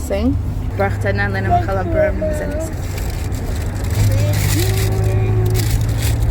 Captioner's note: speaks foreign language